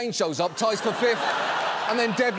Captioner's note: studio audience laughs